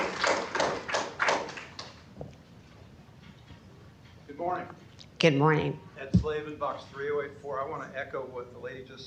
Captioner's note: applause